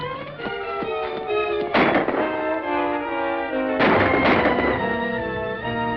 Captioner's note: gunshots